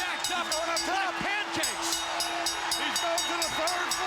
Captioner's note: bell ringing